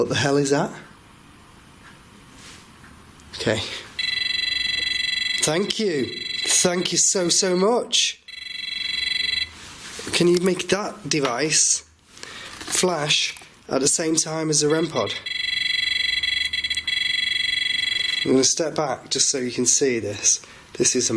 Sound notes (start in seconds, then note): 4.0 high-pitched buzzing; 14.8 high-pitched buzzing